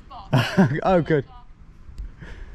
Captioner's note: laughs